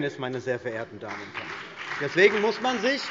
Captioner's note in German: Beifall BÜNDNIS 90/DIE GRÜNEN und vereinzelt CDU